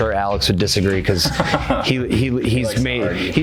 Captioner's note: laughing